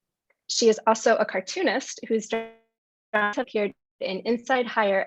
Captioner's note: audio distortion